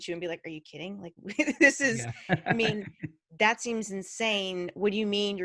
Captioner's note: laughing